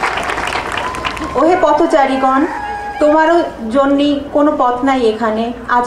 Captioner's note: crowd applauding; speaking in foreign language